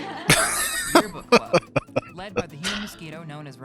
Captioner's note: laughing